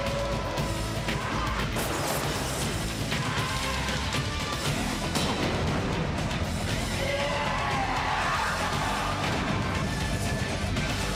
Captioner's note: crowd cheering